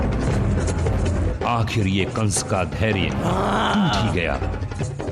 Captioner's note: grunts